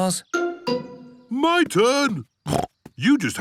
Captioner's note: snorts